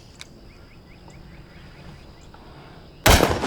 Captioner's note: gun fires